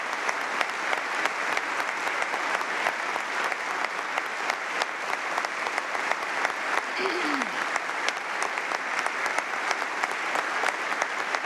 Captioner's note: applause